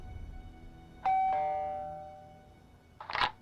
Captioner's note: doorbell rings; door opens